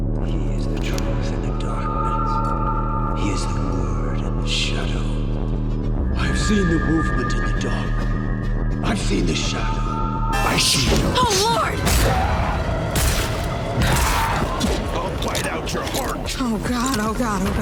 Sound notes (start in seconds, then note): 14.1 vampire roars